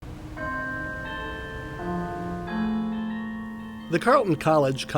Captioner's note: cathedral bells ringing